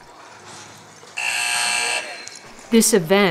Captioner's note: buzzer